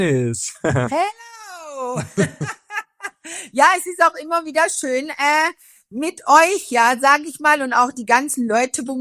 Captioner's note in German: gelächter